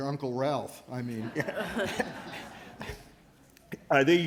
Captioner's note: laughter